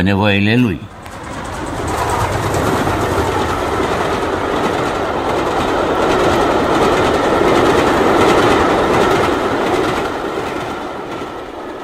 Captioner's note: noise of a train